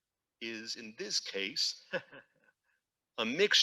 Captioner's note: laughs